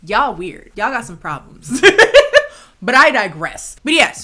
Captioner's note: chuckling